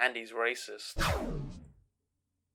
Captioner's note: whoosh